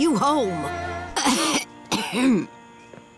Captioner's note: clearing throat